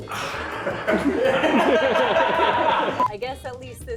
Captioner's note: grunting; laughing